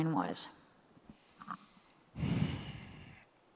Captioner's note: none